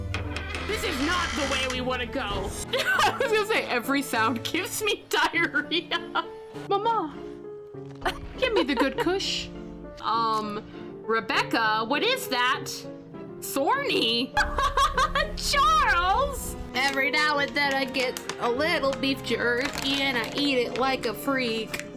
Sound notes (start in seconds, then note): 2.7 laugh; 8.0 laugh; 14.4 laugh